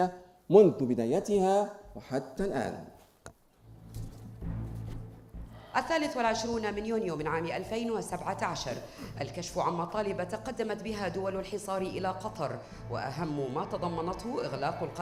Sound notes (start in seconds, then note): 5.4 female speaking in foreign language